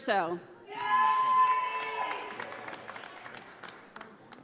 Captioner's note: audience applauding